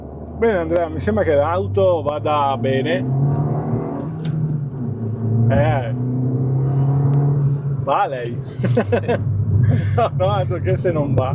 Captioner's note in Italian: risate